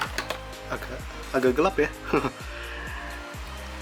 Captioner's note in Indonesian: tertawa